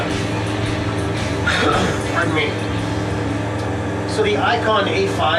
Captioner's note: coughs